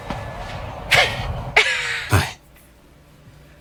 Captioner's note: both laughing